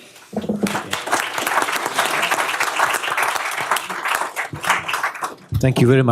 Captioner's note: applause